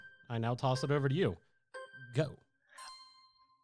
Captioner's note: melodic timer